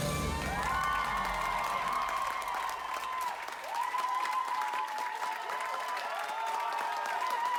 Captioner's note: cheering & clapping